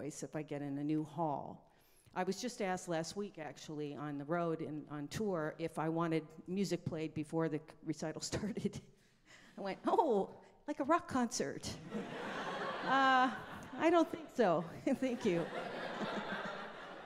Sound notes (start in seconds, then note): 12.0 laughs; 12.0 audience laughing